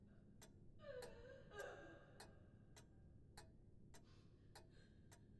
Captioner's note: woman sobbing